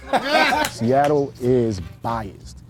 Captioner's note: all laugh